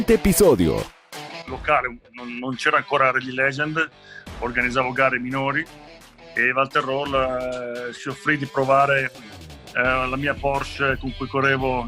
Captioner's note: Italian